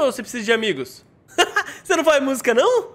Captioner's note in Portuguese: risos